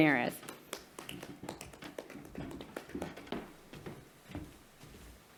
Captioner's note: audience clapping